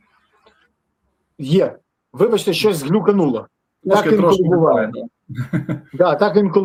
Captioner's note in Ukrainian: сміх